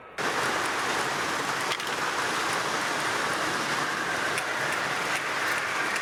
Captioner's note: mechanical roaring